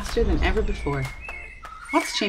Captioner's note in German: Gezwitscher